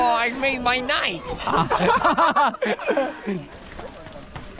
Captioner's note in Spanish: Risas